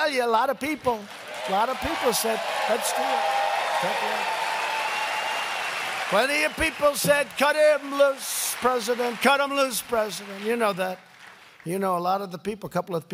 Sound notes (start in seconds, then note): 3.9 applause